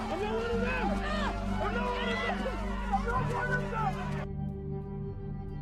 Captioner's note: angry mob shouting